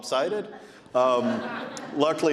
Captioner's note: audience laughing